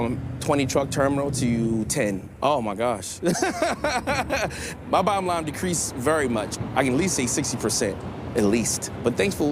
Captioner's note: laughs